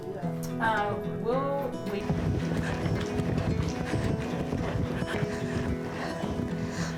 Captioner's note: horse hooves thudding